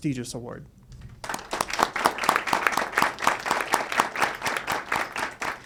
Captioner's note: audience applauds